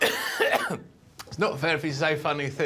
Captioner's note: coughs